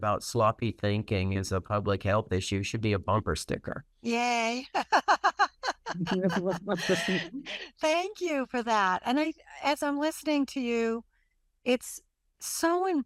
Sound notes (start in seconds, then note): 4.7 laughter